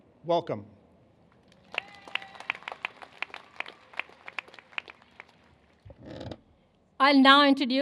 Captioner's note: applause